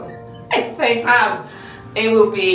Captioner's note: laughing